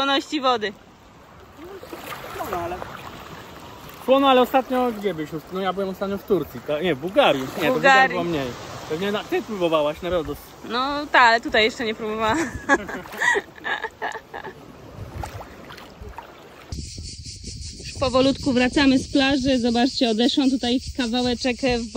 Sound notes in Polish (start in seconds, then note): 12.2 śmiech